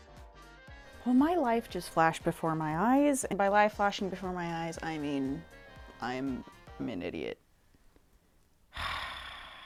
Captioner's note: exhausted sigh of a Thousand Agonies